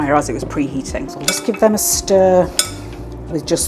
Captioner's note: spoon clinking